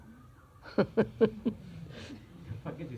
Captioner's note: laughs